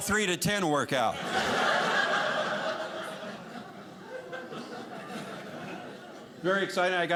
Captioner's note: audience laughing